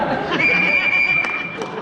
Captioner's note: whistle blows